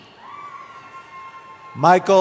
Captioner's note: cheering